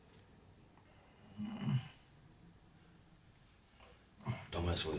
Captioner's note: Anderson groaning